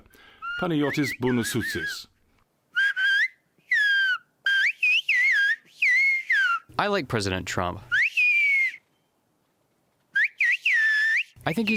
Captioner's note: through translator